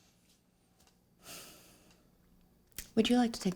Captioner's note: sighs